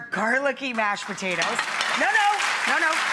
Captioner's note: audience clapping